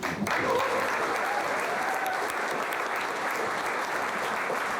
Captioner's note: audience applauding